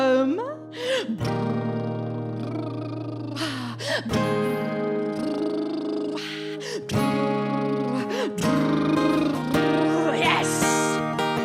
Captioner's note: lip trill